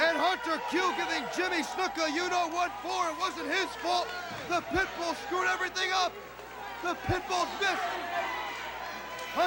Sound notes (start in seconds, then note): 3.3 crowd chatter